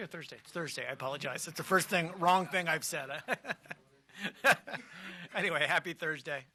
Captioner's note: laughter